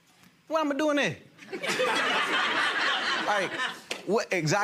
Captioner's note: gallery laughs